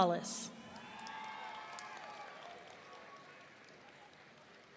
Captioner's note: audience cheering